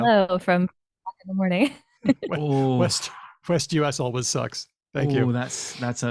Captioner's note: laughs